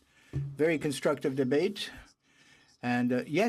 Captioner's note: speaking in french